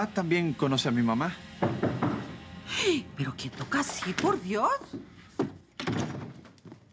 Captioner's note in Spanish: Golpean la puerta